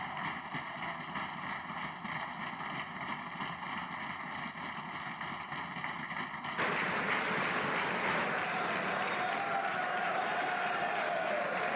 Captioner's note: applause